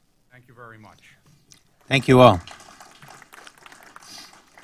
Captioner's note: applause